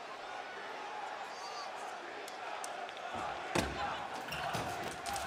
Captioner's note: crowd chants "Batista"